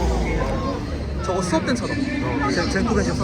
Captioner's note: engine